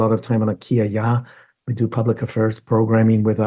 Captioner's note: speaks in foreign language